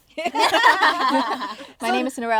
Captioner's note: girls laughing